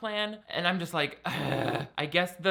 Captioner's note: man groaning